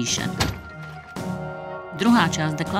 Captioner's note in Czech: bouchání kladiva o řetězy 7 krát